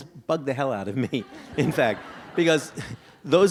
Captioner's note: audience laughs